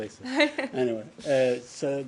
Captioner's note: laughter